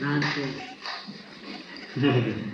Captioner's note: laughter